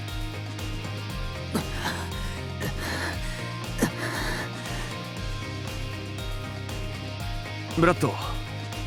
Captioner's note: pant